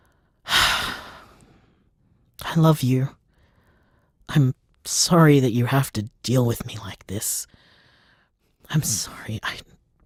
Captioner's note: sigh